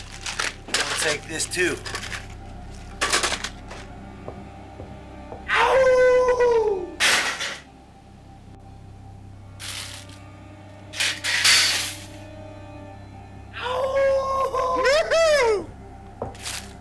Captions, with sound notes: I'm gonna take this, too. (slow ominous music) (Larry howls) (rack clatters) (Larry howls) (Hank cheers)